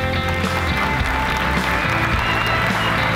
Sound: applause

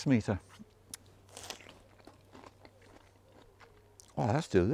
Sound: fruit slurping and crunching

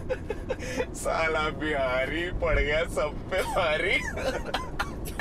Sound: laughing

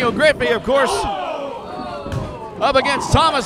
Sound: audience cries of surprise

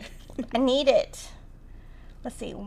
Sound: laughing

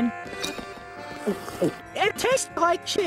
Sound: slurp

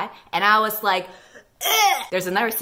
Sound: g a g g i n g

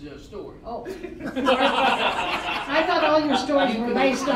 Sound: all laughing

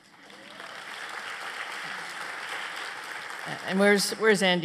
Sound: applause

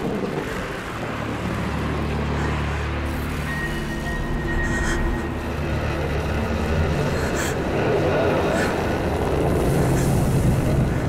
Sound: ragged breathing

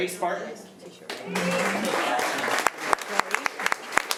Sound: applause

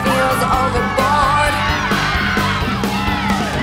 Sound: cheering

